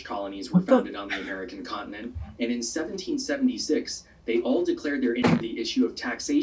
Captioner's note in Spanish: Static